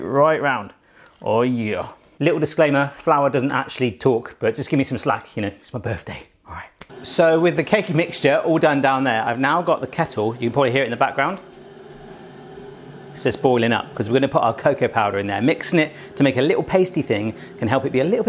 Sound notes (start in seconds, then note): 12.1 kettle boils